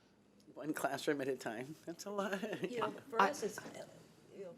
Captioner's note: chuckling